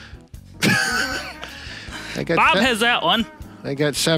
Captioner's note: laughing